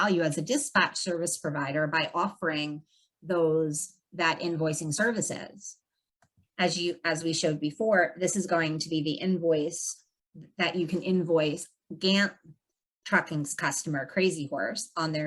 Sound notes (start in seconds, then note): none